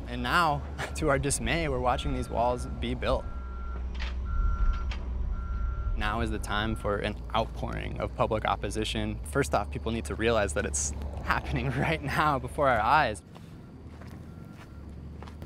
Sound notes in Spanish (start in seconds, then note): 7.7 sonidos de construcción